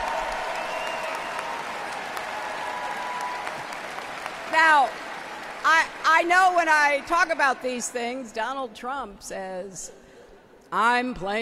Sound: applause

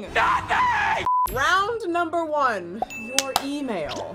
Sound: beep; bell dings; claps

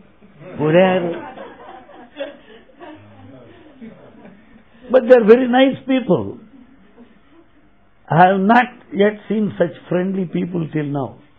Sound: laughter

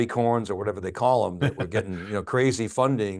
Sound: chuckling

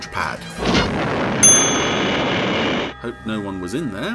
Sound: loud explosion

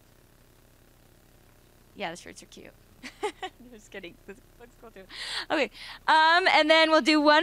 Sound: laughter

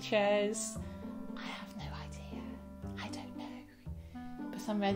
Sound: whispers

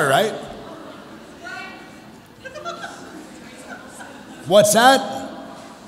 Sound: people chattering

